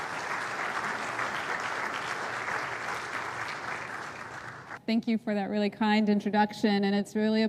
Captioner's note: applause